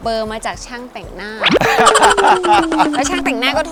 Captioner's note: laughing